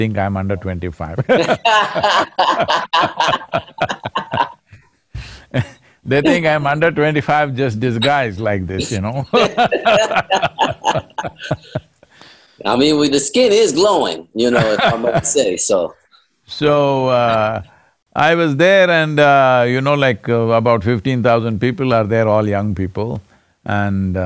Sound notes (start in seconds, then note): 1.2 both laugh; 8.4 both laugh; 14.1 Sadhguru laughs